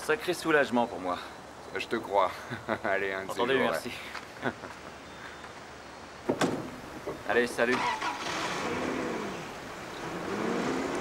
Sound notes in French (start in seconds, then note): 4.3 riant